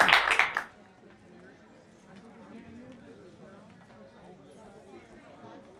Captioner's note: attendees chatting